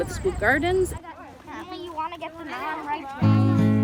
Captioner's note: children talking